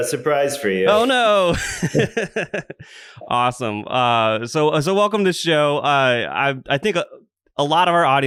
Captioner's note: laughs